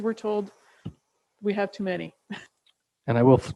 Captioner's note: chuckles